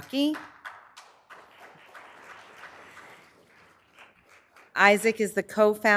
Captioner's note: audience clapping